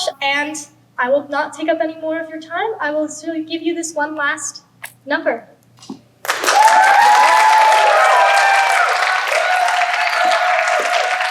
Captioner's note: applause